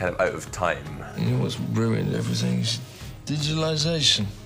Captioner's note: slurring